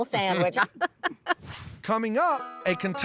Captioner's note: laughs